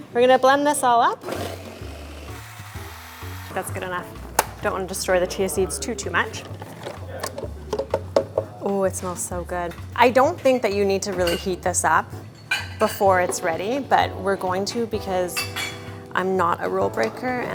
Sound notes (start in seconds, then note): 1.1 blender whirs; 7.9 lid clunks